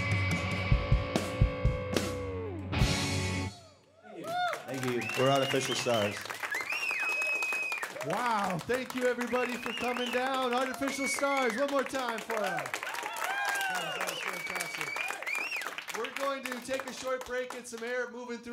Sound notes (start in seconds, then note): 4.3 applause